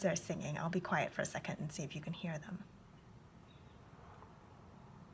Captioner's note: birds singing